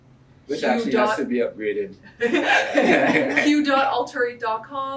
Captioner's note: laughs